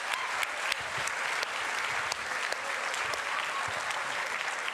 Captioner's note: cheering continues